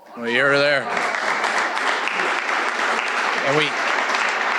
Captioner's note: audience applauding